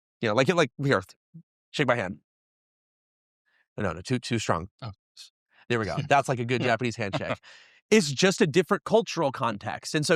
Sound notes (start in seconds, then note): 5.8 host chuckling